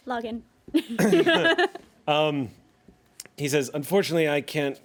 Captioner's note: everyone laughs